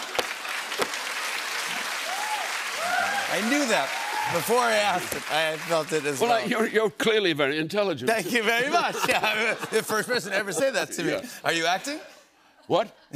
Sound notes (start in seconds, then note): 0.0 laughter and applause; 8.6 laughter